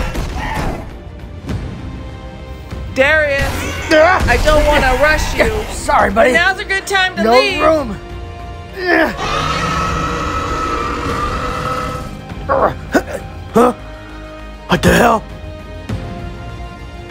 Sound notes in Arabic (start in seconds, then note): 9.0 العقرب يزأر